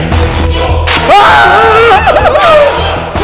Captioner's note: Whimpering